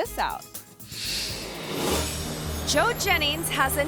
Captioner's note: gentle instrumental music; screen swooshes